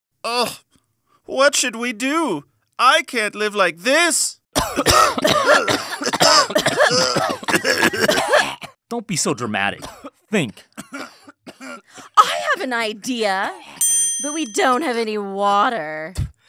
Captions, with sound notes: Oh, what should we do? I can't live like this! (coughing) Don't be so dramatic, think! I have an idea, but we don't have any water.